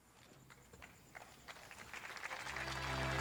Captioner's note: audience applauds